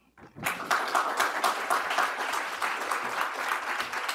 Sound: audience applauding

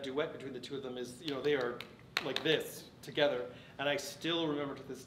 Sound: claps

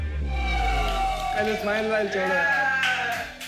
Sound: cheering

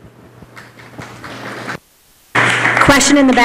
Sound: applause

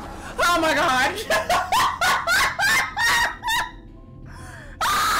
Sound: laughs

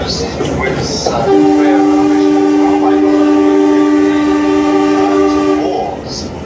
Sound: horn long

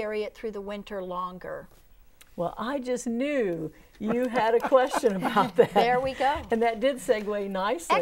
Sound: laughing

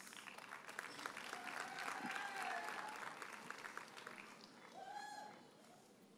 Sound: audience cheers and applauds

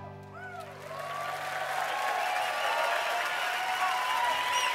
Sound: crowd cheers

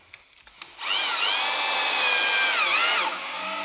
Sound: cordless screwdriver whirring

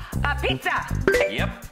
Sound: bell chimes

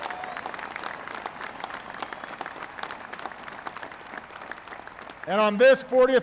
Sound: applause

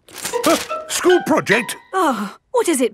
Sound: gasps; sighs

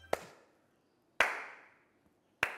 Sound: Kishori Lal clapping

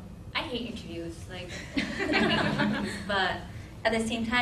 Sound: laughing

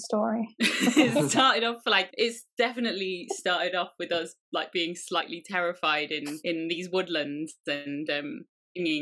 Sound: laugh

